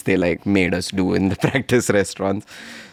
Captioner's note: laughs